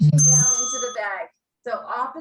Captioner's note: bell rings